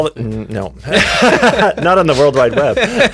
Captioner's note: both laugh